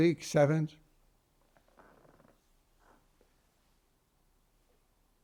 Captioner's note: pauses 8 seconds